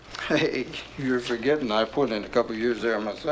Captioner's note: chuckles